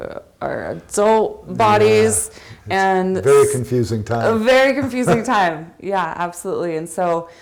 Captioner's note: laughs